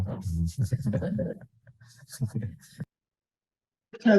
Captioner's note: laughter